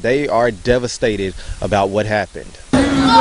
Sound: sound of crying

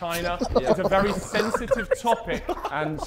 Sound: Sidemen laughing

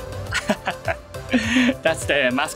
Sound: laughs

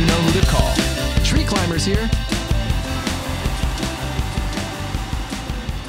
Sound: phone Rings

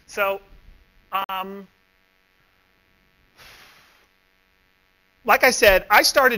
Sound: pause

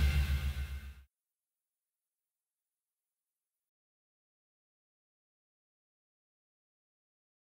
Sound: silence

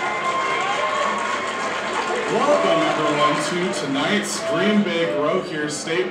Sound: cheering

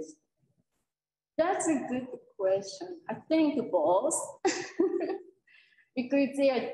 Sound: chuckles

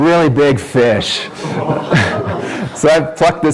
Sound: audience makes noises of awe

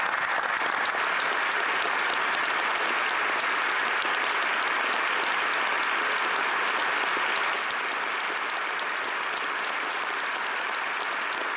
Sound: applause

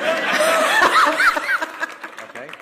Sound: applause

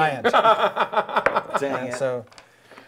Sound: laughing

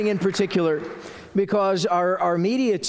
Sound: applause

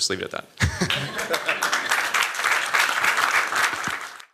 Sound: applause

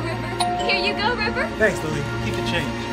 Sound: doorbell chimes

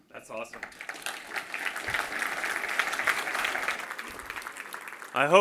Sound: applause

